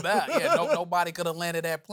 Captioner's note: laughs; denzel washington voice